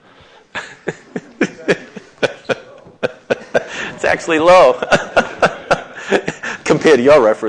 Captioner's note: laughs